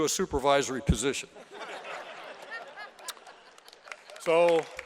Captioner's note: laughter